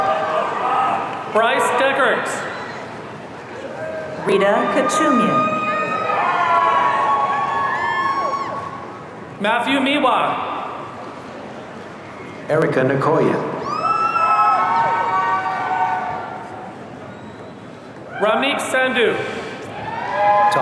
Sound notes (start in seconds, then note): 6.2 audience cheering; 13.6 audience cheering